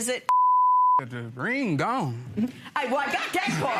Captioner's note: beep